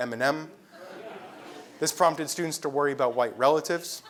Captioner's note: laugh